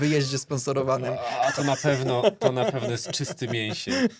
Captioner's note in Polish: śmiech